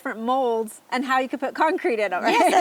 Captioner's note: laughs